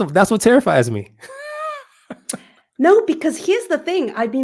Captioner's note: laugh